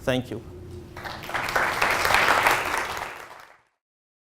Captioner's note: audience clapping